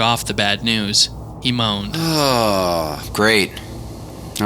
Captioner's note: Agent J moans